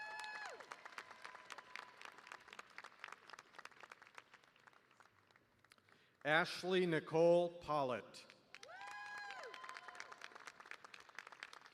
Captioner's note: cheers and applause